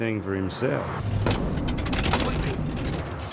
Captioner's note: engine sputters